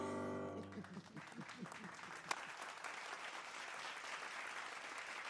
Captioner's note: audience applauding